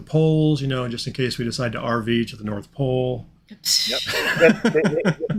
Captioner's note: chuckling